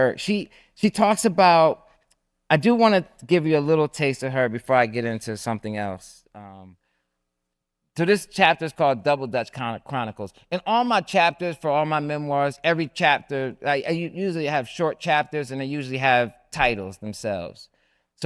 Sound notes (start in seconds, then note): none